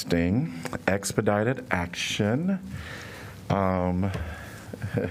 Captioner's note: laughter